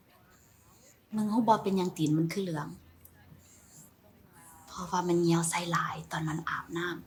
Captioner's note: aesthetician speaking foreign language